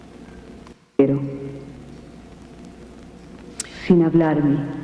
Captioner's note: speaking spanish